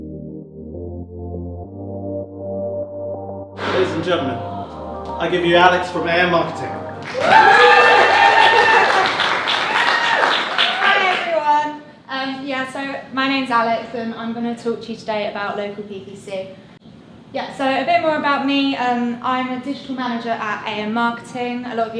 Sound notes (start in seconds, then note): 0.0 upbeat music; 7.0 crowd cheering